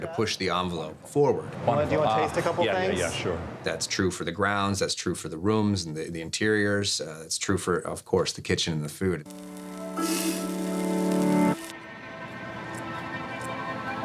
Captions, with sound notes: to push the envelope forward. >>Wanna go and taste a couple things? >>Yeah, yeah, yeah, sure. >>That's true for the grounds. That's true for the rooms and the interiors. It's true for, of course, the kitchen and the food. (pans sizzling) (strained music)